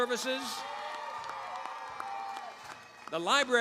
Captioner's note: cheering, applause